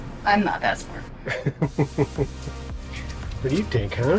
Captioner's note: chuckles